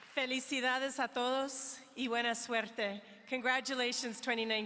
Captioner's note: speaking in foreign language